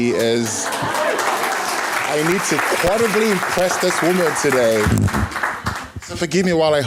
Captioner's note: applause